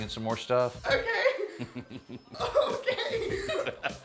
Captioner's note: chuckles